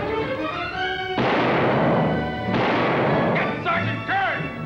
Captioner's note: dramatic orchestral music; guns fire